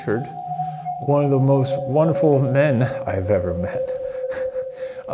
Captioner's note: chuckling